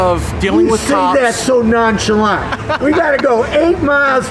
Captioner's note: laughs